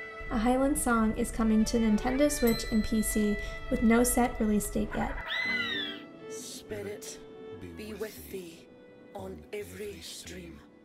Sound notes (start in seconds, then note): 4.9 bird squaws